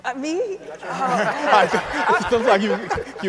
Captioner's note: audience and speakers laugh